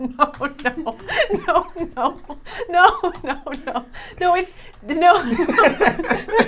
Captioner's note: laughing